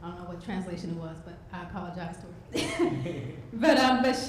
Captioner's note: laughs